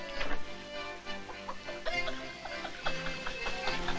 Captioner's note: chortling